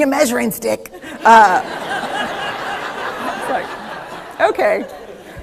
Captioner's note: laughter